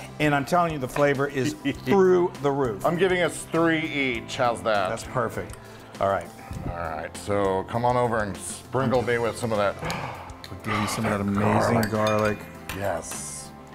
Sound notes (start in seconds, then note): 2.6 laughs; 9.8 gasps